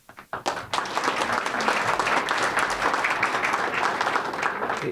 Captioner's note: audience applauding